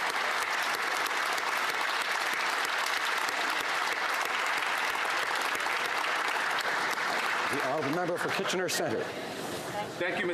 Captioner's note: applause